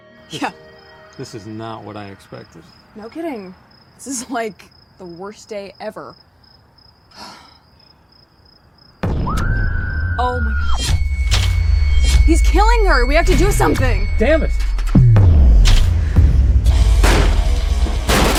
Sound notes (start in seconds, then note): 8.8 pulsating pounding and screaming; 15.1 pulsating pounding; 16.8 kicking against door